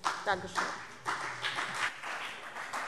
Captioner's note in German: Beifall CDU und BÜNDNIS 90/DIE GRÜNEN